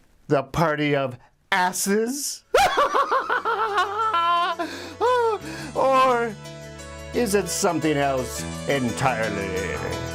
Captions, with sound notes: the party of asses? (laughs) Or is it something else entirely?